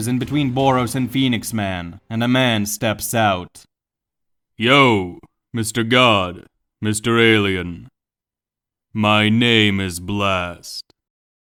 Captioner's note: blast